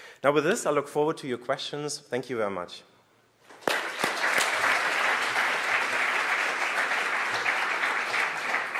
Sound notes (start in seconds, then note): 3.5 applause